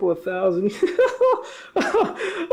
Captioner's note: laughing